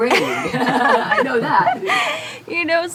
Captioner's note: laughs